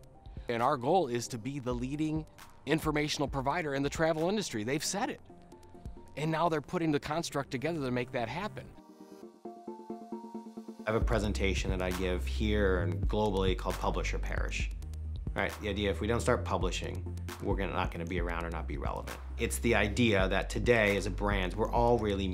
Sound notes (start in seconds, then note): 11.0 voiceover